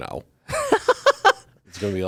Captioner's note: laughs